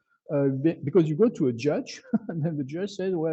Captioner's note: chuckles